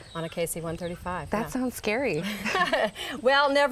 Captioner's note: chuckle